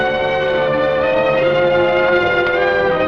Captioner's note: soldier speaking quietly